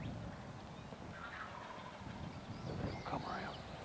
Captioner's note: turkeys gobbling